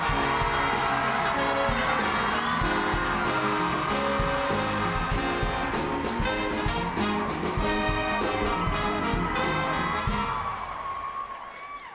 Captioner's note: cheers and applause